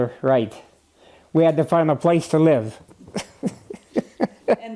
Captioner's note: laughter